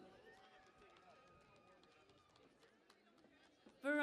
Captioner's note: cheering and Applause